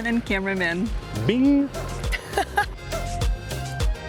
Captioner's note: laughs